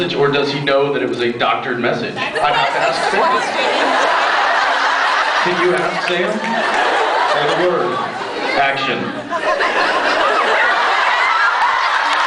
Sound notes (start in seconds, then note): 4.1 laughs; 9.3 laughs, cheers, applauds